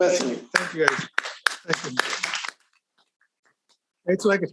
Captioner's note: audience applauding